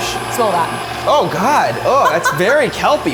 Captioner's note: mixer whirling